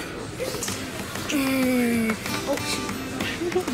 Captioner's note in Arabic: الآهات